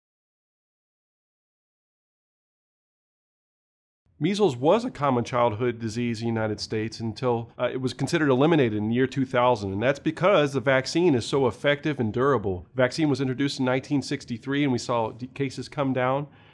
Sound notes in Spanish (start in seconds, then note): 0.1 Sin audio